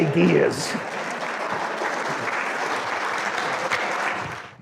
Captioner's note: audience clapping